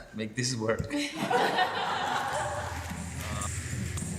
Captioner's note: laughter